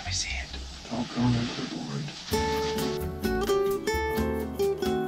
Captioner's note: whispering